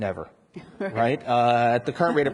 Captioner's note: and audience laughs